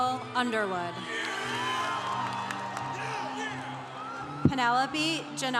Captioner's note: congregation cheering